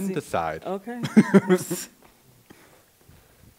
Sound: laughs

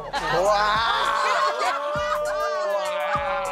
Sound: cast laughs

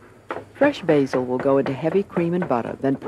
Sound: voiceover

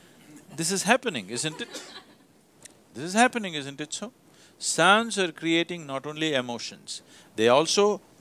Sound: laughter

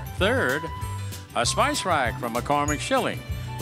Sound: none

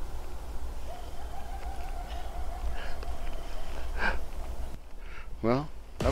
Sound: coyotes howling in the distance

